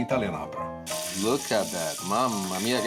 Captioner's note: sizzling